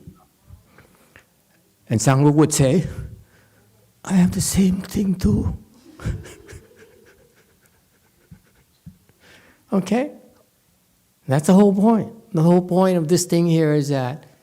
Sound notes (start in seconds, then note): 5.8 laughs